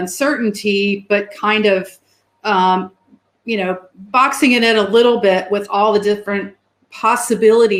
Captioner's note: erm